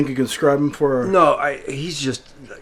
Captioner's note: stammers